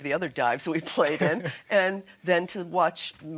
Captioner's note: chuckles